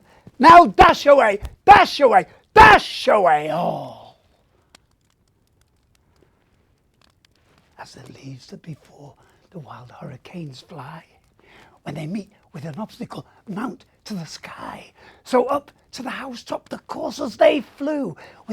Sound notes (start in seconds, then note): none